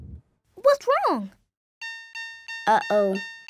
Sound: beeping

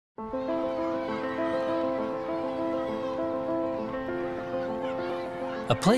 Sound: soft piano music; children playing

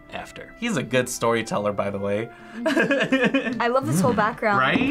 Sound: laughs

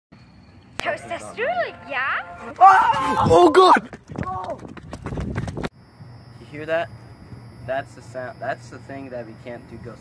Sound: scream

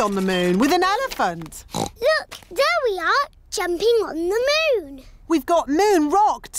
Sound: oinks

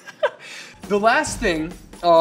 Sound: chuckles

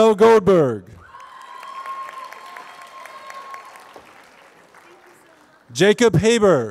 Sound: applause

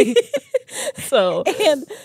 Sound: laugh

